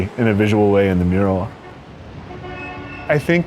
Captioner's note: cars honking